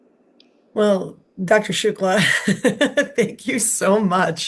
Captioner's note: chuckles